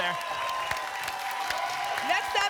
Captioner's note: applause and cheering